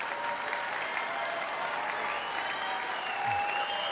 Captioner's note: audience applauds; audience cheers